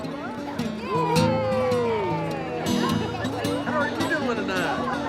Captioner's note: blues music; cheering